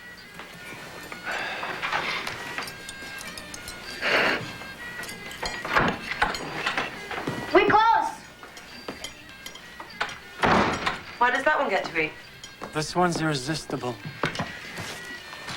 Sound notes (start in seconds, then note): 1.1 sighing